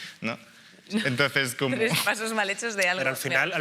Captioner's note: laughter